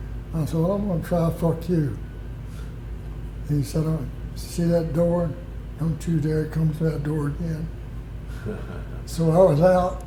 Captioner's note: laughter